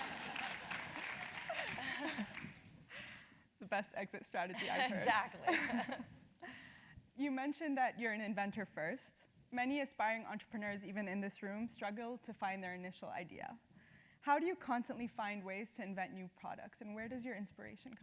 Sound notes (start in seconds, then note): 6.6 laugh